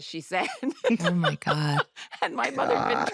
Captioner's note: laughs